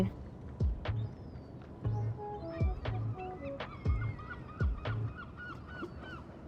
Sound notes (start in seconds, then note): 0.1 relaxed electronic music; 3.1 birds cawing